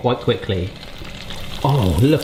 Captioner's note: samosa frying